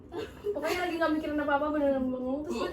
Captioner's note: laughs